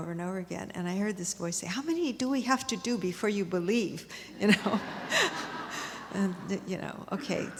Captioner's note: laughter